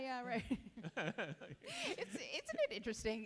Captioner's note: chuckle